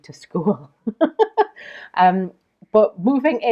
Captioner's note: laughs